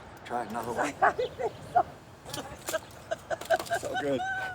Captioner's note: onlookers laughing